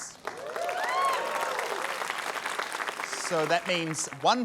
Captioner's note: cheering, applause